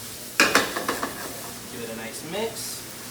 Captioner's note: ingredients sizzle and shuffle in the pan; pan clatters against the burner